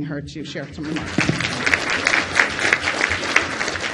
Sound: applause

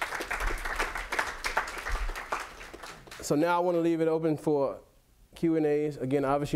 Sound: clapping

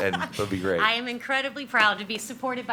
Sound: laughs

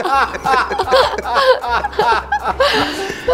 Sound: laughing

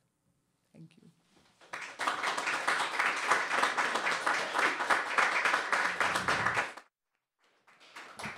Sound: applause

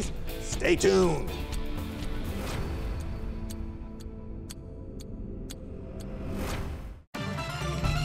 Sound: clock ticking; upbeat music

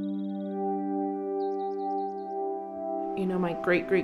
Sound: birdsong

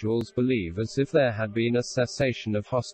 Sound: voice reads

